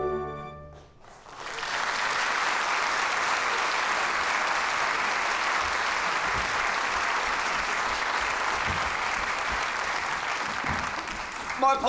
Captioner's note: applause